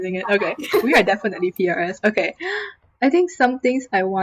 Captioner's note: laughing; gasp